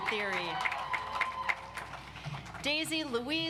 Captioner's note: audience applauds